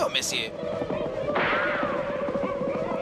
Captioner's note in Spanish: disparo